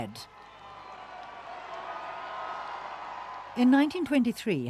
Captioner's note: crowd cheering